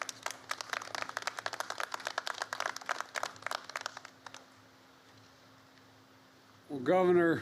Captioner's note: applause